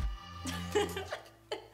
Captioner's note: daughter laughs